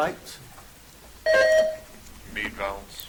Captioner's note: buzzer chimes